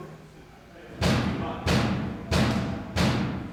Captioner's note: banging